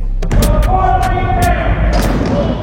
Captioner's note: ball bouncing; dunk sound